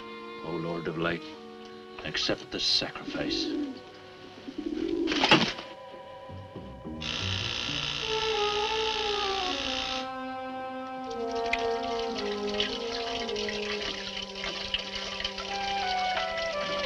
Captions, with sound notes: Oh, lord of light, accept this sacrifice. (Thunk) (Door buzzer sounds)